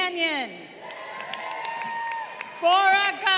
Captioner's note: crowd cheering